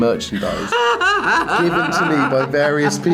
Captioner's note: Rian laughs